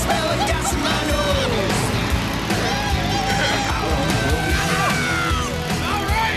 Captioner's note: both hooting and hollering